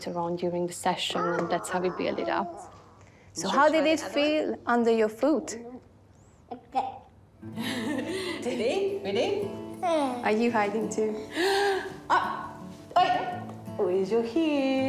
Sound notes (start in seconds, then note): 7.6 giggles; 11.3 gasps dramatically